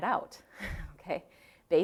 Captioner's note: chuckling